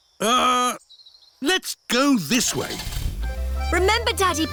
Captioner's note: starts engine